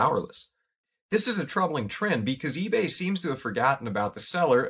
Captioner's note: voiceover